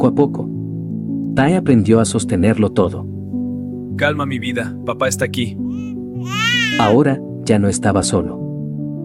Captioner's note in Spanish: lloros